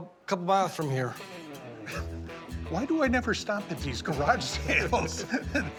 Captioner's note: laughs